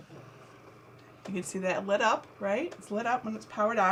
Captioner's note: Cricut hums